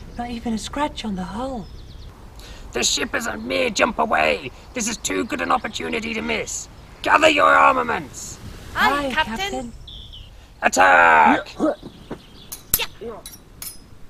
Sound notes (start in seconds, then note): 10.8 both grunting